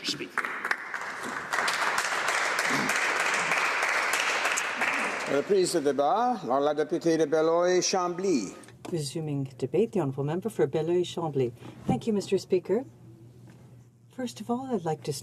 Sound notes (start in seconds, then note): 3.8 applause